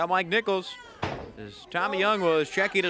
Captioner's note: crowd chants